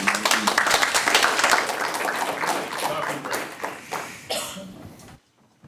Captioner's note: applause